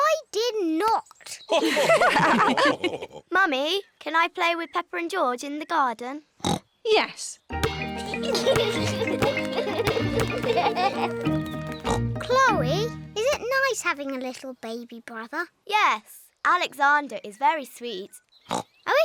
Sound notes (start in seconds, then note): 1.5 others laugh; 7.7 youngsters giggle; 7.8 oinks